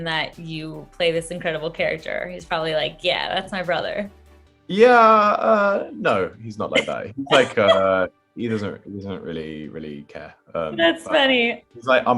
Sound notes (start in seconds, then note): 6.6 interviewer chuckles